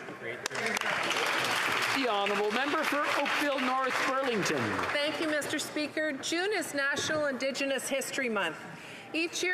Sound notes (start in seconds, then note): 3.7 applause